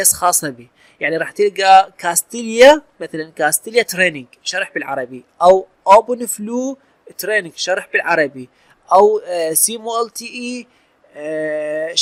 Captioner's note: explanation in arbic